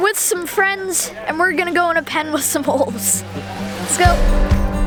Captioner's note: giggles